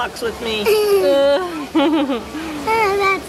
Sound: giggles

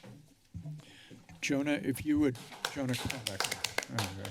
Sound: clapping

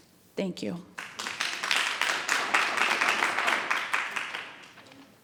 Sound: audience applauding

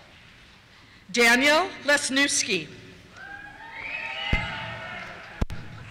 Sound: cheers

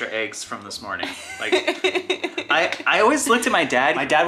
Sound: laughing

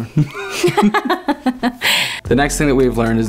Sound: laughing

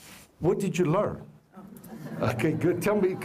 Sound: laughter

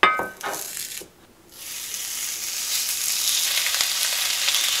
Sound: sizzle

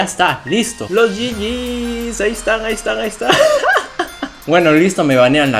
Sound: laughter

